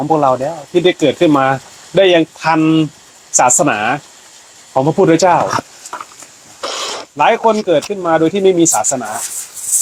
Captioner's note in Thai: เสียงสูดหายใจ